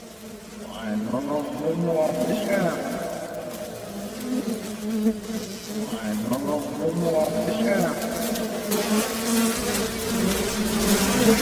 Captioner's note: fly sounds